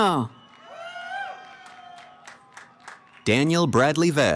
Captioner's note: cheering